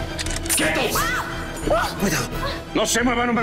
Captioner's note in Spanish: Sonido al enristrar; Grito